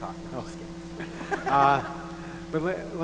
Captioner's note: laughs